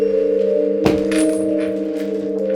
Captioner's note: components clinking